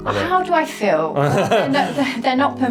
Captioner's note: chuckling